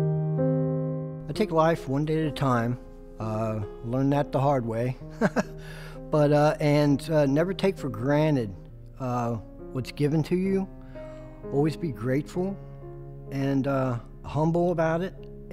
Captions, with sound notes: I take life one day at a time. I learned that the hard way (chuckles). And never take for granted what's given to you. Always be grateful, and humble about it,